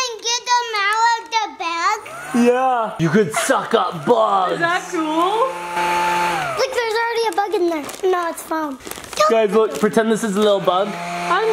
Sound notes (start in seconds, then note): 2.0 vacuum whirring; 5.6 vacuum whirring